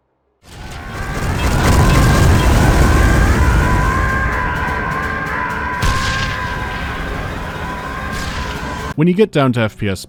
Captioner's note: fiery explosion and looping scream